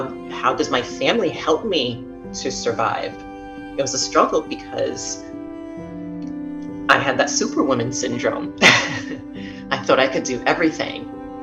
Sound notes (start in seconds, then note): 8.6 laughs